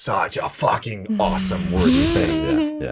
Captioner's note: chuckles